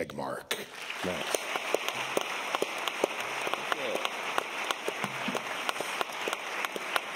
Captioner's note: applause